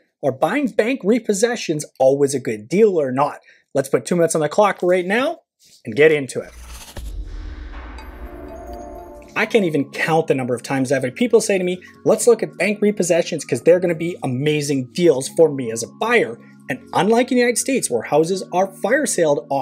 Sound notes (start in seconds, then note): 7.7 short chime